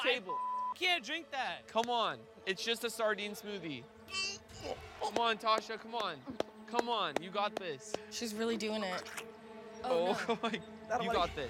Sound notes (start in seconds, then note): 3.8 retching